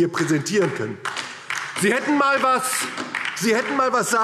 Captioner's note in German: Beifall DIE LINKE